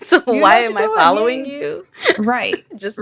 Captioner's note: chuckles